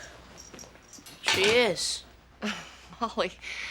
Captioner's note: valerie chuckles